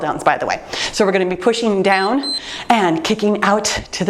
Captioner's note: timer beeps